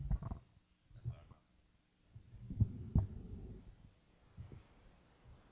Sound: speaks faintly

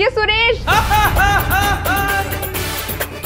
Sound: laughing

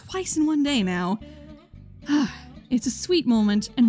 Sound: sigh

